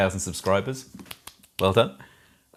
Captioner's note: claps hands